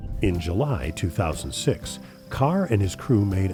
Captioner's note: voiceover